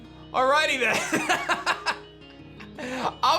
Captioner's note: laughs